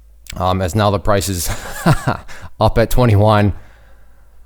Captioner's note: laughing